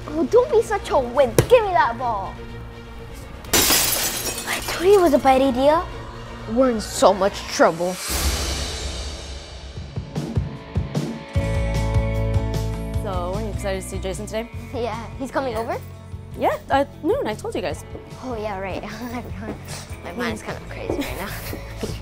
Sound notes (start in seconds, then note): 3.5 glass crashing; 10.7 upbeat music